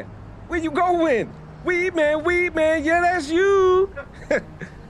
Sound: chuckles

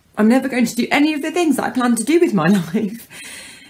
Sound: none

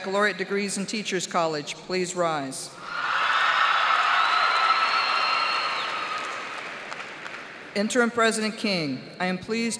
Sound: cheers and applause

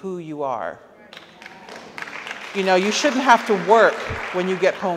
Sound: audience applauds

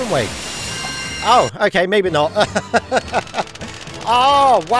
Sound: laughter

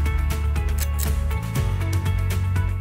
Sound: click

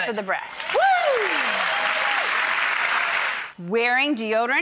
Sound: audience cheers

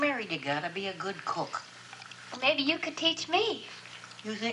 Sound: none

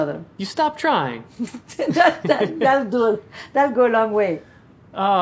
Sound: laughing

